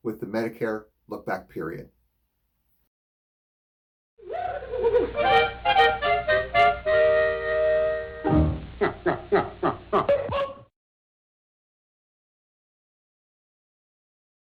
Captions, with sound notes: with the Medicare look-back period. (jaunty music) (man laughs)